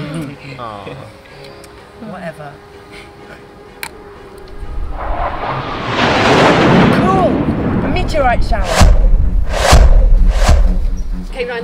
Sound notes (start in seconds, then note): 0.0 laughing; 4.4 meteorite roaring; 9.1 meteorite crashing